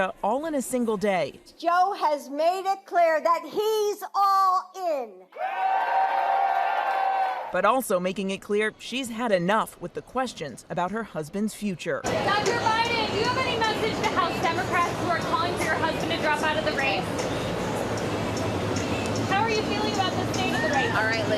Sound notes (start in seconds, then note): 8.3 applause